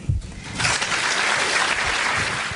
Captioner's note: applause